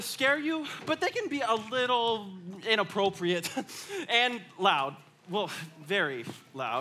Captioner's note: laughs